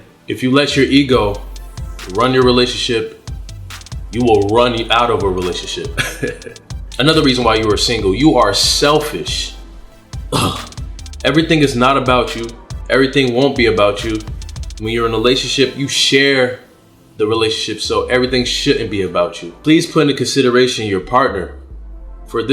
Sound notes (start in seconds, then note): 6.0 laughs